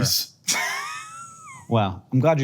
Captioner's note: Hank chuckles